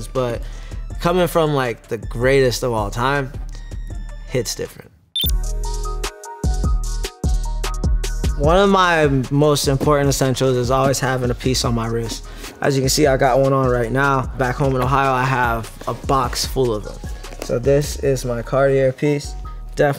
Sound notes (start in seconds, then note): 5.1 electronic beep; 5.3 hip hop music